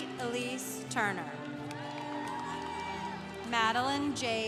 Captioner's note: congregation applauding